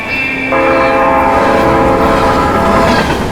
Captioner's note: horn warning